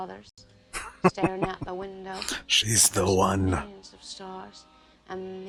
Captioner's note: chuckling